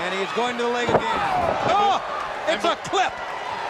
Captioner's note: wrestlers thudding on ring